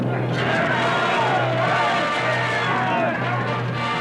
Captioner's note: yelling